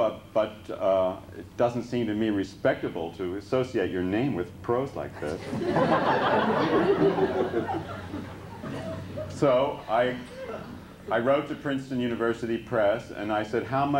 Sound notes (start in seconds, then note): 5.2 laughter